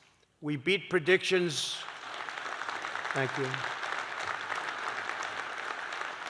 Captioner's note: applause